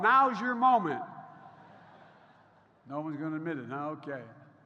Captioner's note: laughter